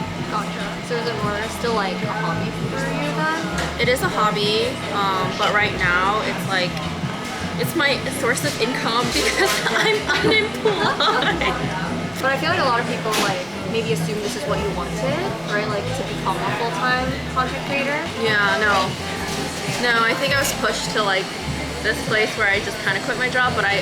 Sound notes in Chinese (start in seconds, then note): 9.3 苦笑